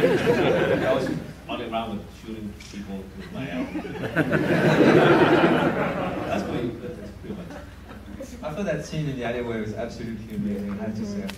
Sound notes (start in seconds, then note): 0.0 audience laughs; 3.2 audience laughs